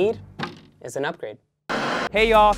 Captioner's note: static